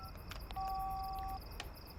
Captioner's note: line disconnects; long beep